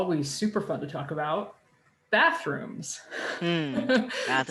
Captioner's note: chuckles